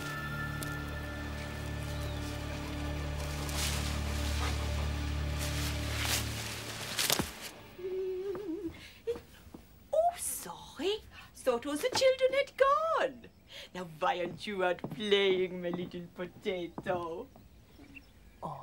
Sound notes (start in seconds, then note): 3.4 leaves rustling; 7.8 humming